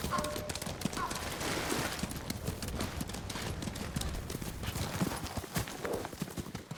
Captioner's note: footsteps